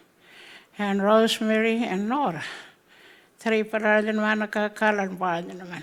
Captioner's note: speaking Anmatyerr